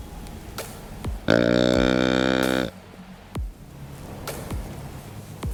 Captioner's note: deer call bellows